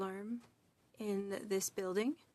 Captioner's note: speaking French